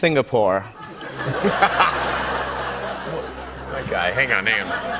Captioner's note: laughter